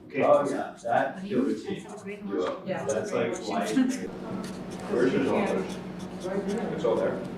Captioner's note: chatter